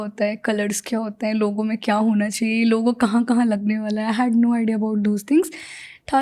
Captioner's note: speaks in Hindi